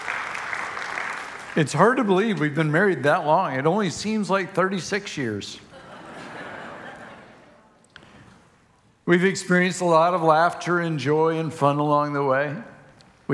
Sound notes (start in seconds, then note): 0.0 congregation applauding; 5.6 congregation laughing